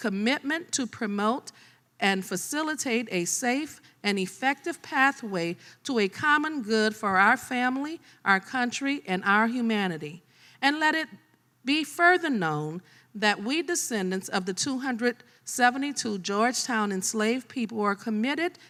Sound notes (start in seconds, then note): none